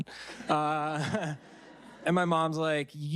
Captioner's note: audience laughing